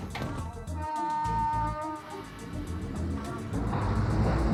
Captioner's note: horn honks